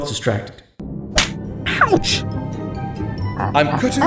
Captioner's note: slap; ape noises